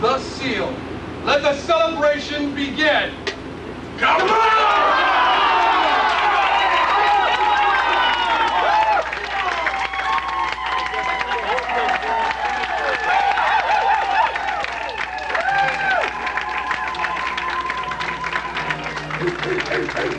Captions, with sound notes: Let the celebration begin! QAPLA'! [audience cheers. music begins.]